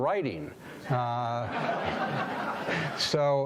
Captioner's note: audience laughing